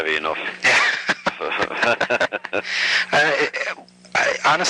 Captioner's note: both laugh